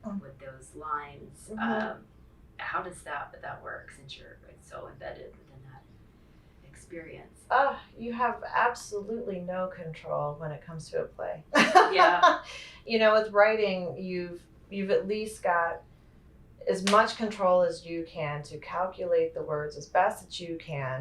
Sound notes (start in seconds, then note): 12.3 laughs